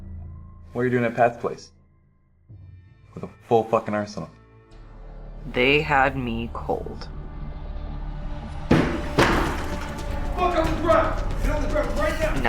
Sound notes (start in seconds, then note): 5.4 Felina narrating